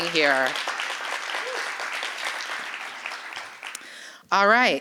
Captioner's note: applause